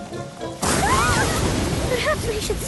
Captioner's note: thunder crashes